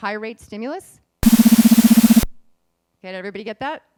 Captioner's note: beeping